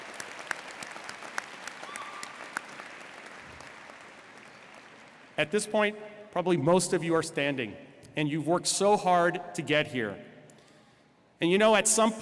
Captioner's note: applause